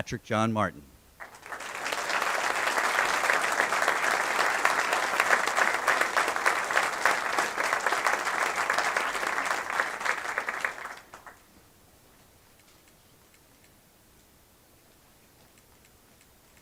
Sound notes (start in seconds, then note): 5.8 applause